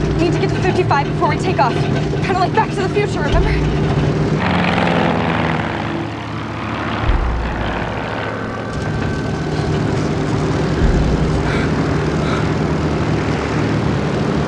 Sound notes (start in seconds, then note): 4.9 engine rumbling; 11.4 Laura gasping